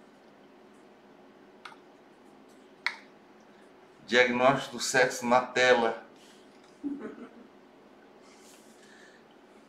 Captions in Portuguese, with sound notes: Diagnóstico do sexo na tela [RISOS]